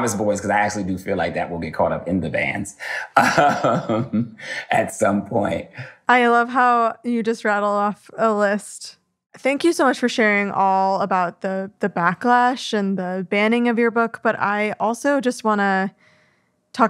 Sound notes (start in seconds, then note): 3.1 laughs